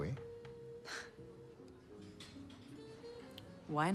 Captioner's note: Marie chuckles